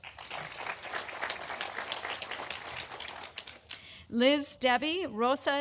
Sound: audience applauding

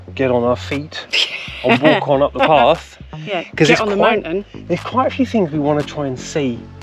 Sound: laughter

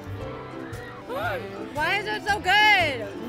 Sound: gasps

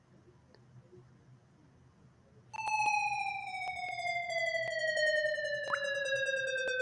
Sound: sliding tone, water drips

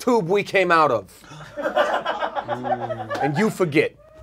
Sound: audience laughs

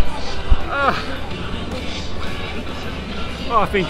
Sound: groans

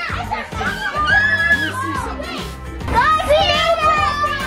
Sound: kids screaming

